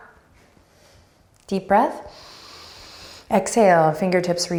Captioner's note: breathing deeply